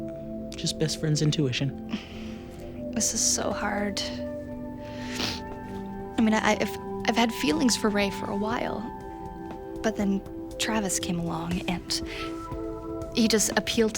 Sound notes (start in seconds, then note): 4.8 sniffs